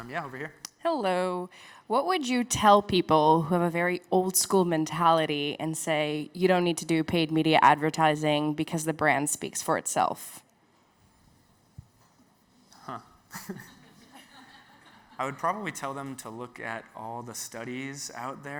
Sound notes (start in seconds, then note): 13.4 audience laughs